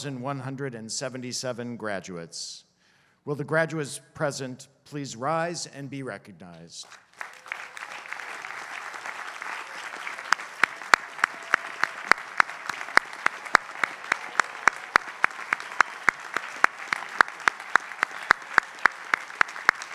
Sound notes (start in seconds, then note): 6.8 applause